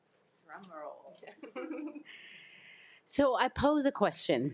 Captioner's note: group laughs